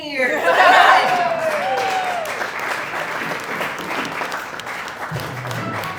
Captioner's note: audience Cheering